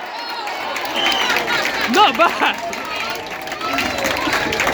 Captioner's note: applause